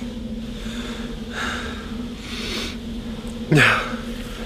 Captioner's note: sighing deeply